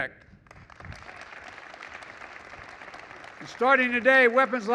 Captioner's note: applause